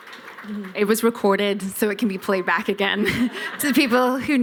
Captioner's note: laughter